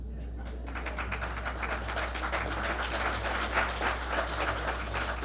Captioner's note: applause